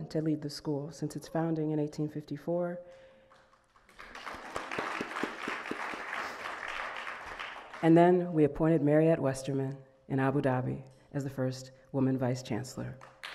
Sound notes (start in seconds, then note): 3.2 audience clapping; 13.0 audience clapping